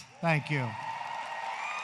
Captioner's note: applause